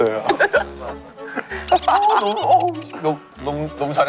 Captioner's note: laughing